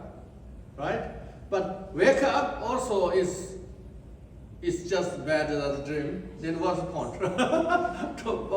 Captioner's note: laughs